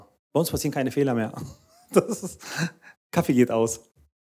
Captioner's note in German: Lachen